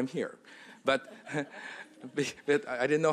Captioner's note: laughter